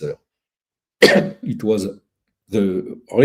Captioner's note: cough